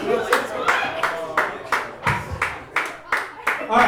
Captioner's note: clapping